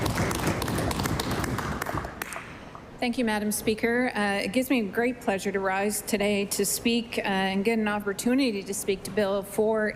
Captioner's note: applause